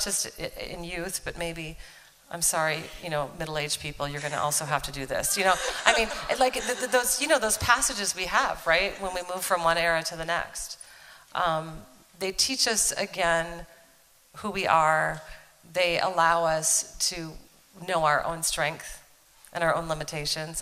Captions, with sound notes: just in youth, but maybe - I'm sorry, middle aged people, you're going to also have to do this. You know? I mean - [Laughter.] those passages we have, right, when we move from one era to the next, they teach us again who we are. They allow us to know our own strength and our own limitations.